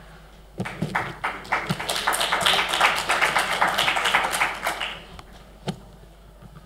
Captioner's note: applause